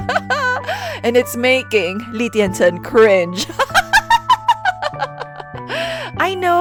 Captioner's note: laugh; laughing out loud